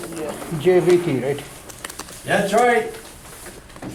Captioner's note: voiceover